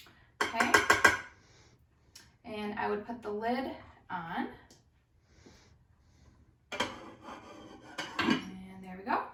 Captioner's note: sound of lid of rice cooker on pot; tap of spoon 3 times